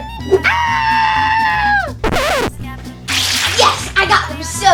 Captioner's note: Green PJ Mask screams